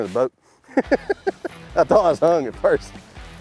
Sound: laughs

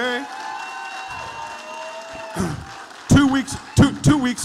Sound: audience applauding

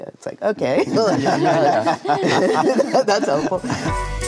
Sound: group laughs; low energy music

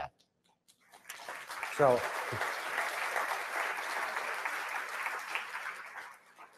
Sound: audience Applause

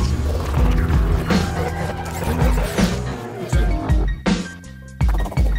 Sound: electronic whooshes

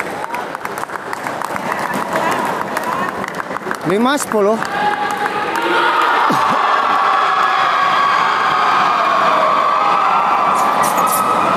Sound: applause

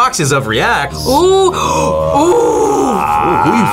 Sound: gasps

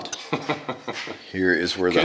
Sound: laughs

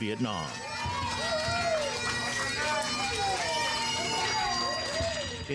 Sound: bagpipes blaring; crowd cheers

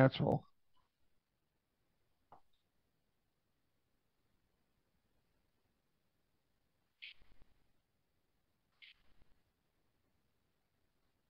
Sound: silence

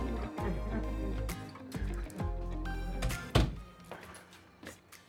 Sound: door opening, closing

